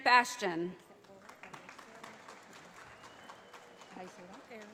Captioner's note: audience applauding